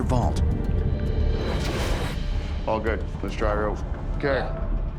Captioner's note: none